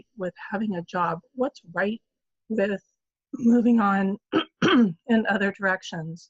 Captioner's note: clears throat